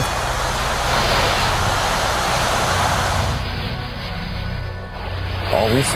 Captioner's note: crashing waves